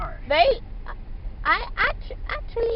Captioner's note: stutters